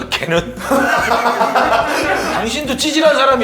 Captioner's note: ah ha ha ha ha